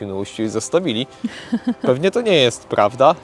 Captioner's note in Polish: śmiech